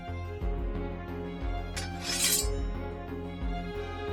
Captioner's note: sword clinking